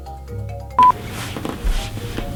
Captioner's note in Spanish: bip